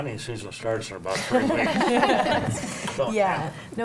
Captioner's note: panel laughs